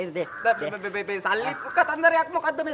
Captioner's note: stutters